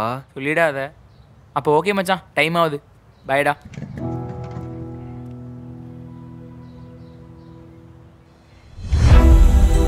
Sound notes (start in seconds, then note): 3.4 bike noise; 8.8 sad music playing